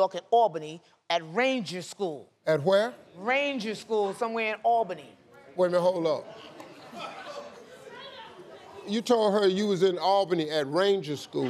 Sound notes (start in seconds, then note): 6.8 spectators murmur